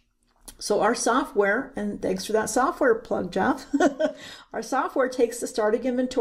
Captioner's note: chuckles